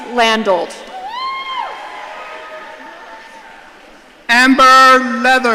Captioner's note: audience cheering